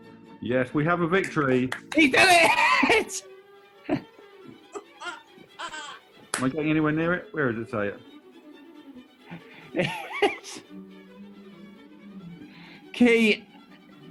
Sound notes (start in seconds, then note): 9.6 laughing